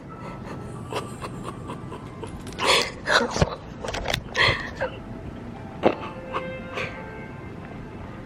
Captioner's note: crying; music playing in background